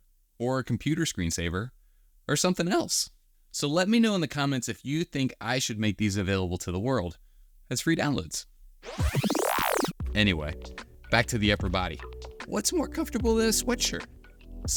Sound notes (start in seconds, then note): 8.8 time warp sound effect